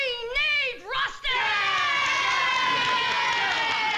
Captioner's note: cheering; clapping